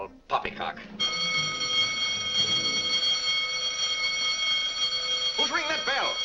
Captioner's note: alarm bell rings